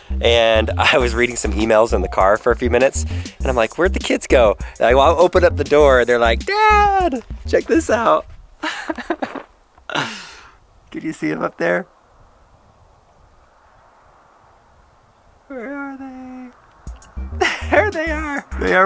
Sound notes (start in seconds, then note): 8.6 laughs; 17.2 laughs